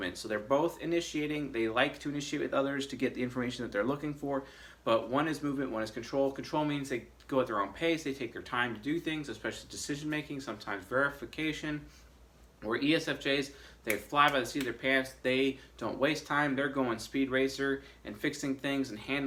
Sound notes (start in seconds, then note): 13.8 snaps fingers